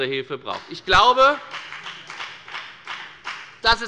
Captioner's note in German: Beifall bei der FDP